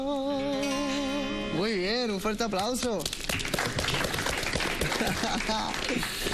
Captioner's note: claps